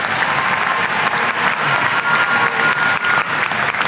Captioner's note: applause